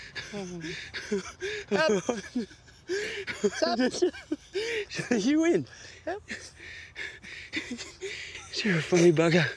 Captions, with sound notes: (laughs) You win, you're a funny bugger.